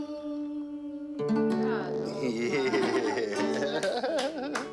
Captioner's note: chuckles; claps